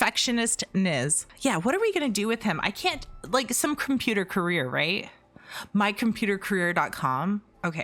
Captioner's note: gasp